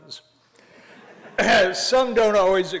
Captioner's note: laughter